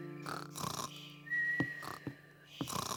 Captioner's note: peppa and george snore; whispers